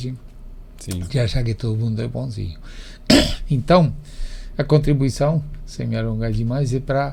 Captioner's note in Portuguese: limpando a garganta